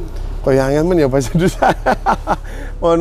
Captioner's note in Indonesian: tertawa